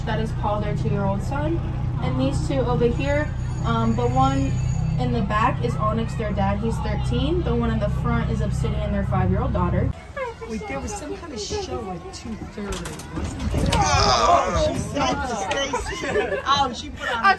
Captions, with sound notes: that is Paul, their two-year-old son. And these two over here, the one in the back is Onyx, their dad, he's 13. The one in the front is Obsidian, their five-year-old daughter. - Wait, there was some kind of show at two-thirty, wasn't there? (grunts) Oh she said to stay seated.